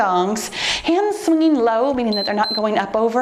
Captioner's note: timer beeps